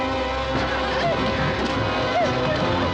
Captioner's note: whimpering